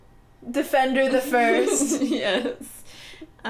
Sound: laughing

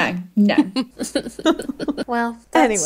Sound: laughing

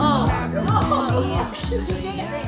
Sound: all laughing

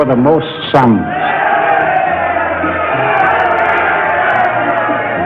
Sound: crowd cheering

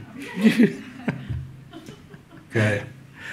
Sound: audience laughs; laughter

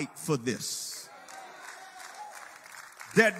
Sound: congregation cheers and applauds

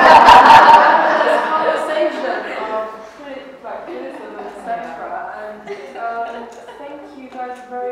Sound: laughter

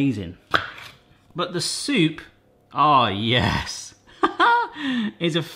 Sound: laughs

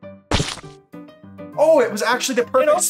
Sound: watermelon bursting

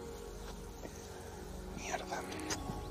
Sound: whispering

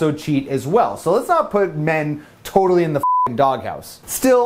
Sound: beep

